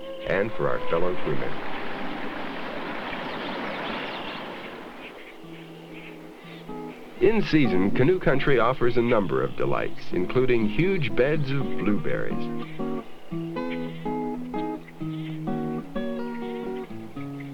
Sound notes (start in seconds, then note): 1.4 sound of water